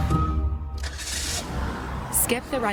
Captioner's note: engine starts